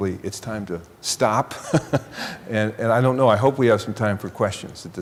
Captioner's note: chuckling